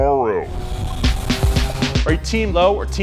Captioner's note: car engine roaring